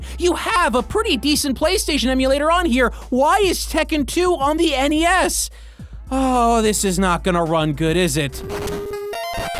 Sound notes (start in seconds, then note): 5.5 sigh